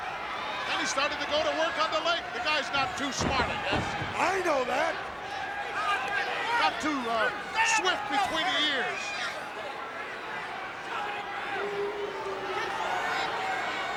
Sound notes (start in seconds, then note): 9.0 crowd yelling